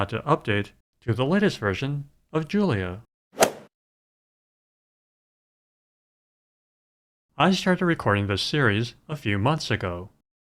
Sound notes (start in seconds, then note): 3.4 swoosh